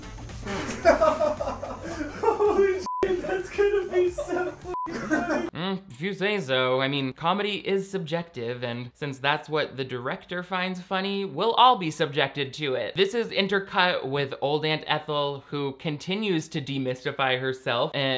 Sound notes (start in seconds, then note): 0.4 director laughing; 2.8 beep